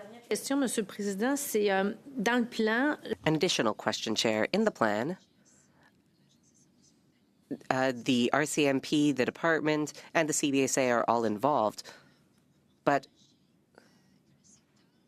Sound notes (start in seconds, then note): 7.6 speaking French